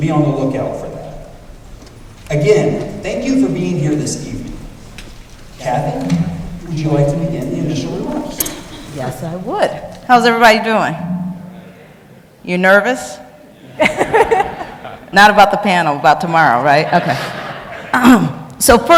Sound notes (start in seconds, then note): 11.4 audience mutters; 13.6 laughs; 16.7 audience laughs